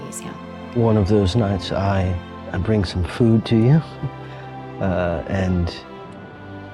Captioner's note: chuckles